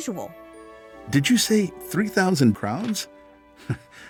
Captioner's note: chuckles